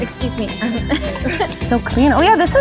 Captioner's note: laughs